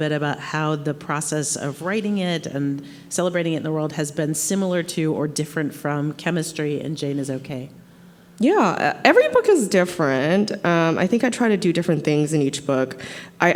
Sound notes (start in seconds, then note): none